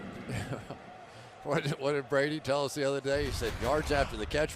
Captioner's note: chuckles